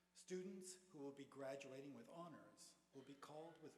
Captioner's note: none